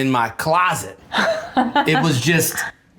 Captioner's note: laughs